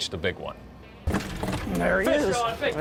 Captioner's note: banging